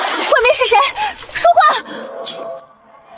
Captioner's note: speaking